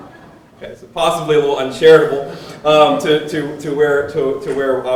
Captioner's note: laughter